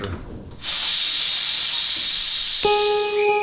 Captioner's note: air hissing